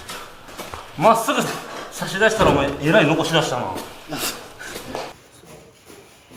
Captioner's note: laugh